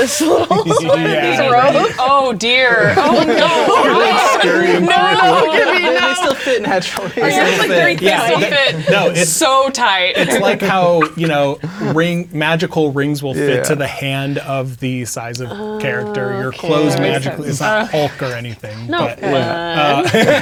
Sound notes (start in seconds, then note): 0.2 laughing; 3.1 players laughing; 4.2 all talking and laughing at once; 10.0 players laughing